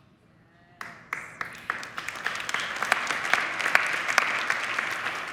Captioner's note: audience clapping